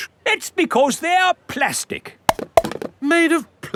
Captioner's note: clunks